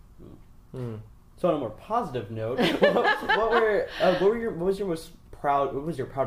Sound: laughs

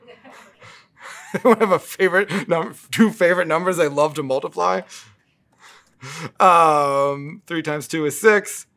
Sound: laugh

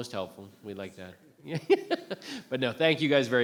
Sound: chuckles

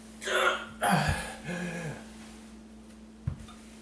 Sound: gasping

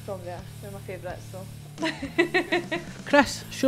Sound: laughs

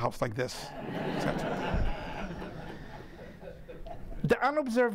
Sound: audience laughing

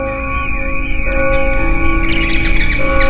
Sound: bell clanging; crickets chirping; bats wailing

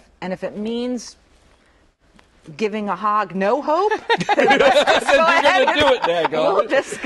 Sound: laughter

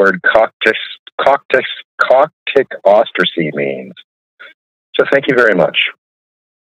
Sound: speaks foreign language

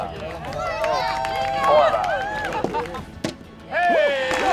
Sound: cheering

